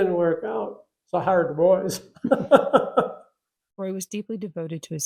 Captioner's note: laughter